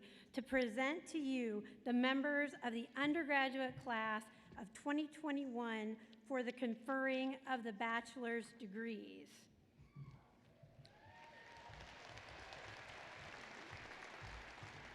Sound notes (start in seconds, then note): 10.8 applause